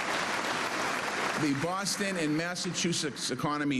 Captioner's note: cheers and applause